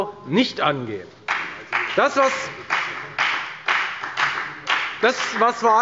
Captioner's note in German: Beifall bei der FDP